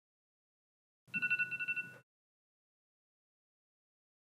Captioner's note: timer goes off